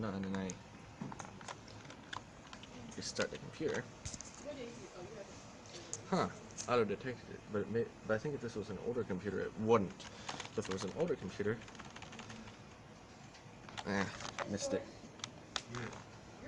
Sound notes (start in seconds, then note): 11.6 Pounding Function Key like a maniac